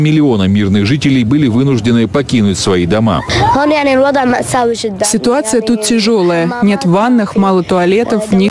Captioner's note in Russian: Речь по-арабски